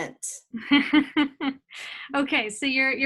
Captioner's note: laughs